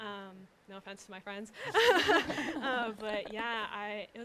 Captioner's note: laughs